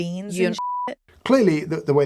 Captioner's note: beep